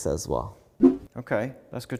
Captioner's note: graphics whooshing